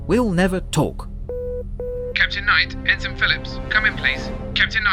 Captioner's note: communicator beeps